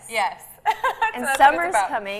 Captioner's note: laughs